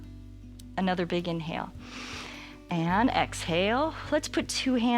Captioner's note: inhales